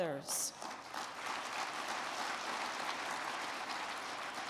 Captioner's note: crowd clapping